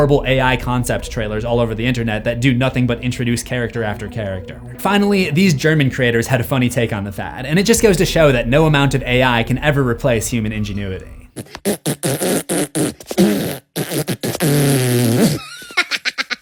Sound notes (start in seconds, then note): 10.4 fart sounds; 15.1 minion laughs